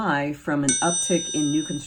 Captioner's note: bell dinging